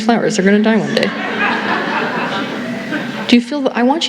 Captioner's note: laughter